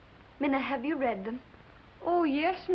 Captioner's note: foreign accent